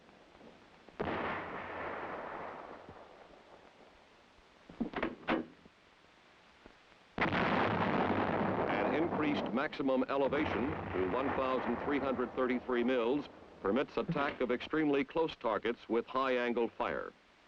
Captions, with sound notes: (howitzer booms) (howitzer booms) An increased maximum elevation to 1333 mills permit the attack of extremely close targets with high-angle fire.